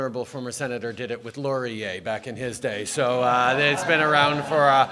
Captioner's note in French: Rires